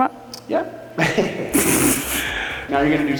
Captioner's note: both laugh